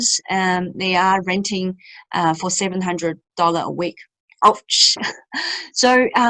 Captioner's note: laughs